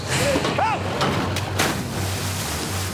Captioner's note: screaming; splashing